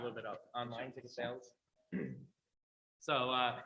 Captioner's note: clears throat